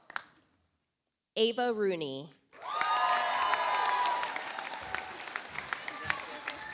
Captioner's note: audience applauds